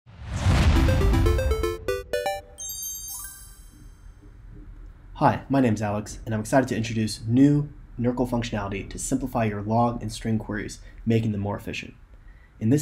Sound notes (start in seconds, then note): 0.1 screen whooshes; 0.7 bright 8-bit music